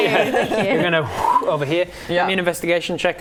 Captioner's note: fwip